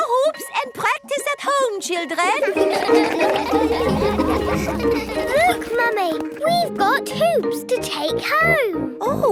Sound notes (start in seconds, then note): 2.3 all laugh